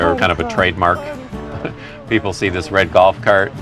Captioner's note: baby voice